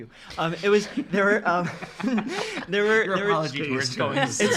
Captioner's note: laughing